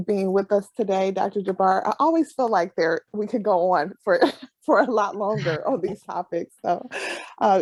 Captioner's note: laughs